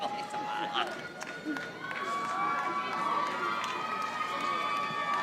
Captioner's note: audience applauding